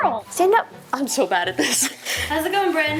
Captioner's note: Justine chuckling